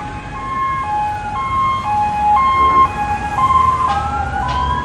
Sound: distant sirens blaring

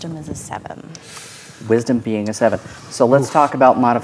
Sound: inhales

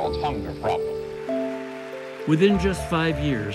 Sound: applause

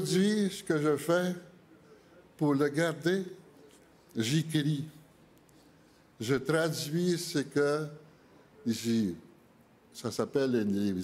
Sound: speaking French

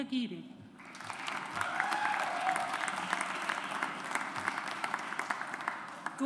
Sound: audience applauds

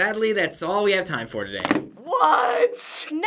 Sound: remote clatters

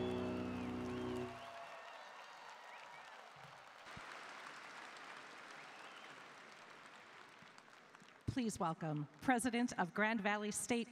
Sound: cheering and Applause

